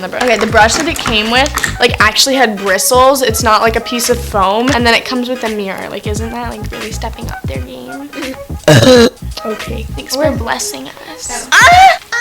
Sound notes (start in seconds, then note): 8.6 burps